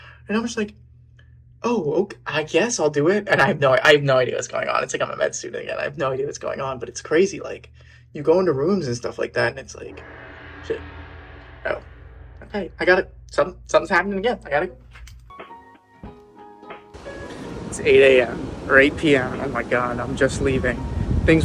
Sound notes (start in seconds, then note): 9.8 gong clangs; 15.2 coffeehouse music